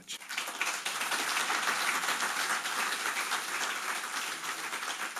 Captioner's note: audience applauding